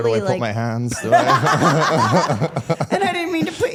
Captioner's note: everyone laughing